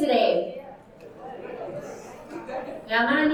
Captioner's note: audience chattering